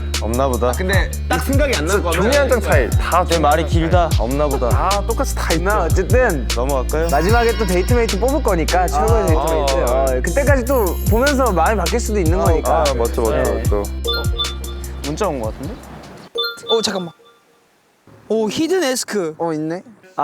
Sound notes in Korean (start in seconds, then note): 14.0 띠링; 16.4 띠링